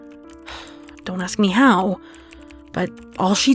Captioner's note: quiet sigh